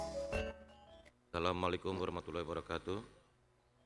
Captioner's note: speaking indonesian